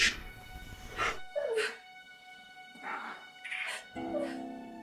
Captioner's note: Hannah whimpers